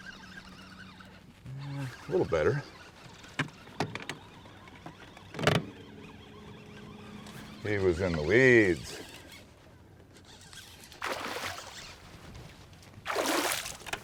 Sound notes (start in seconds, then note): 0.2 reel cranking; 5.8 clattering; 6.6 reel cranking; 13.0 fish splashing